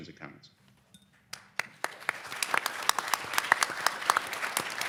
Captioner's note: audience applauding